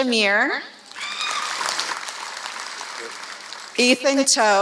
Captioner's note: applause